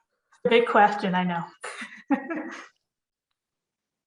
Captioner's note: chuckles